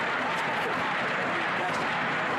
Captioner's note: chanting